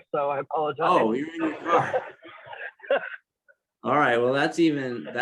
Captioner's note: laugh